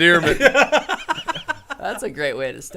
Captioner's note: men laughing